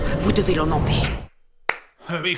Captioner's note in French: Applaudissement sarcastique